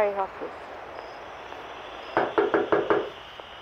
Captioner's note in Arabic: إيقاف تشغيل مشغل الكاسيت